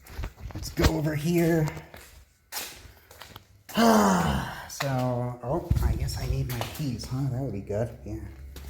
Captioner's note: sighs